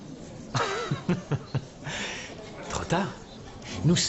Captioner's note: يضحك